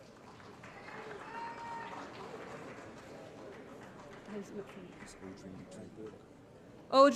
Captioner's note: applause